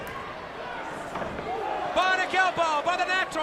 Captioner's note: crowd chatter